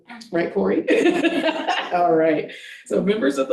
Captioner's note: board members chattering and laughing